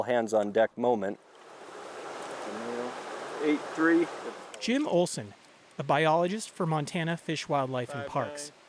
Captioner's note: voice-over